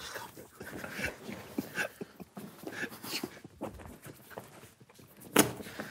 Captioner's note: fingers rustling clothes continues; group quietly snickering continues